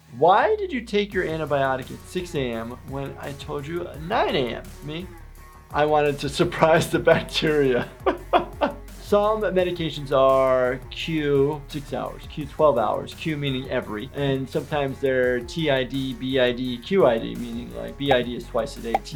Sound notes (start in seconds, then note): 7.8 laughs